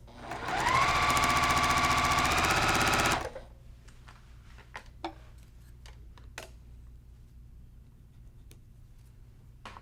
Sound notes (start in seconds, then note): 0.0 sewing machine humming